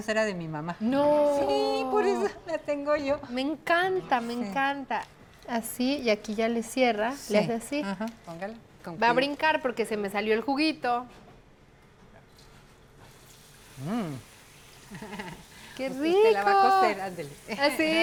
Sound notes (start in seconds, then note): 13.0 sizzling; 14.9 laughs; 15.8 both speaking Spanish